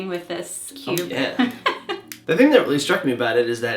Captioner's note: laughing